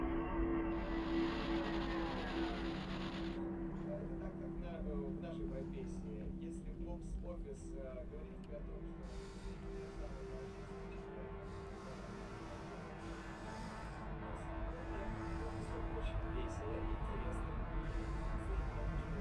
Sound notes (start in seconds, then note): 3.4 speaking in a foreign language; 11.0 foreboding electronic music